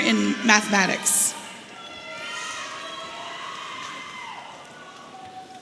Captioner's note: audience cheering